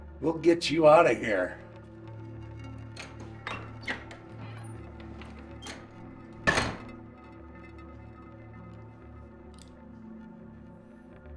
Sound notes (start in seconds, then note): 2.5 tense music continues; 6.5 door slamming